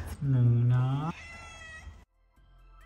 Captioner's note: Luna meows